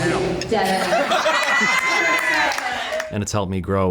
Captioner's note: band and crew laugh and applaud